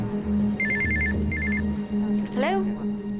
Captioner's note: rings